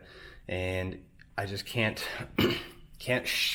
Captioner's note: clears throat